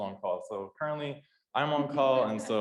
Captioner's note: laughs